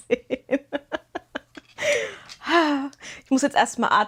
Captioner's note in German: gelächter